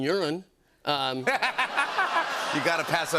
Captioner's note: laughter